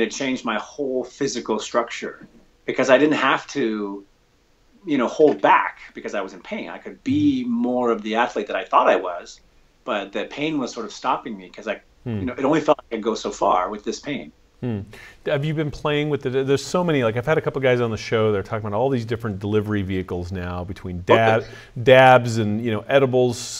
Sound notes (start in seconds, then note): 12.1 audio skips